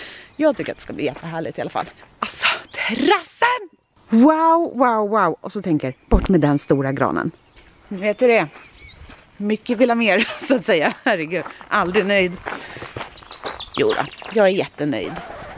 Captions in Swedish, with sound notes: Jag tycker i alla fall att det ska bli jättehärligt. Alltså, terassen! Wow, wow, wow. Och så tänk er att den stora granen är borta. Ni vet hur det är. Mycket vill ha mer, som man brukar säga. (skratt) Aldrig nöjd. Jodå, jag är jättenöjd.